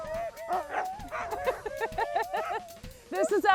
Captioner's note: laughing